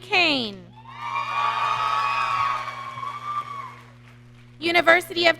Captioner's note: audience cheering